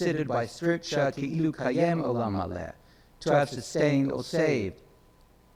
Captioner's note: speaks in foreign language